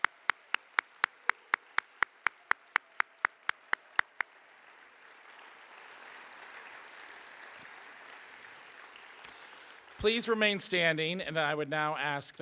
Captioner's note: applause